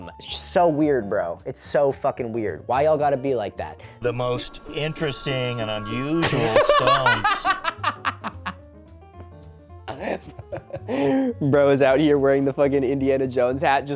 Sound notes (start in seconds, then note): 6.2 laughing